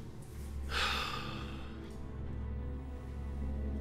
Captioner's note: sighs